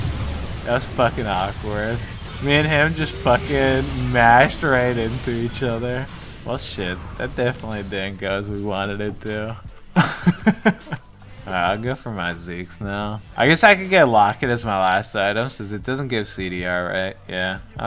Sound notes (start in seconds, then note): 9.9 laughter